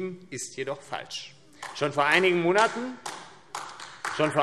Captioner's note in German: Beifall AfD